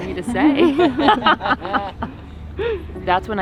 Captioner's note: both laughing